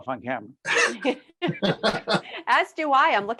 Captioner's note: laughing